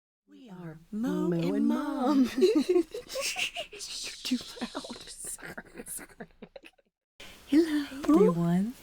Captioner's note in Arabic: يضحك; يستمر الضحك